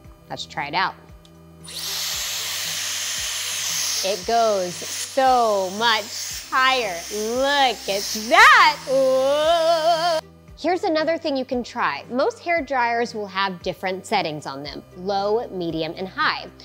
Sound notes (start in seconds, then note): 2.0 machine whirring